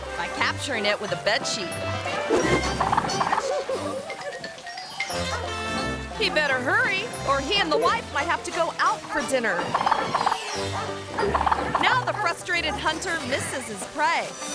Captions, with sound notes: by capturing it with a bed sheet. (cameraperson giggling) He better hurry, or he and the wife might have to go out for dinner. Now the frustrated hunter misses his prey